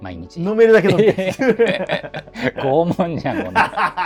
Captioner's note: laughing